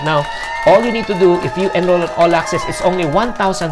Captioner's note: cheers